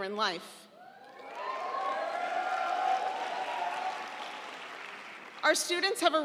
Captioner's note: audience cheering; audience applauding